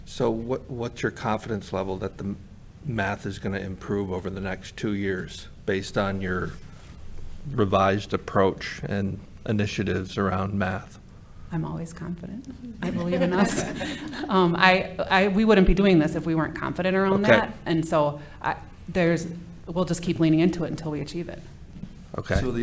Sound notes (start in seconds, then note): 12.8 audience laughing